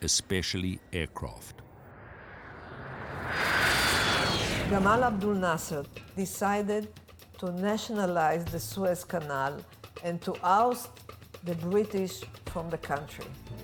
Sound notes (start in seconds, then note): 1.5 plane roaring